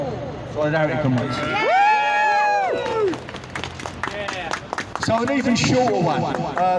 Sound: cheering, applause, whooping, shouts of YEAH!

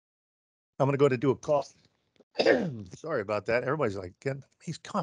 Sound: coughs

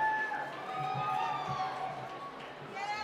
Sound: cheering

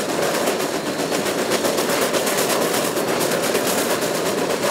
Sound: rotary chugging

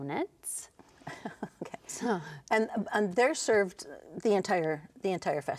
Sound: laughing

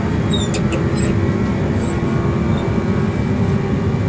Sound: engine roars; rudder pedals squeak

